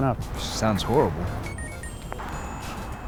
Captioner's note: phone chimes